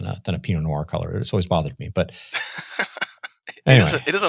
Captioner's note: laughs